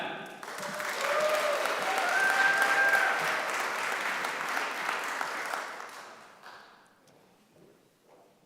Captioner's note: applause